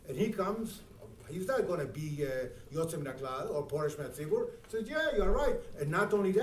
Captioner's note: speaking in foreign language